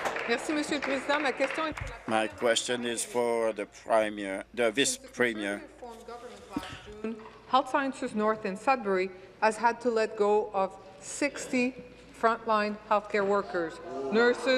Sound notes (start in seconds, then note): 0.0 applause; 3.4 speaking in French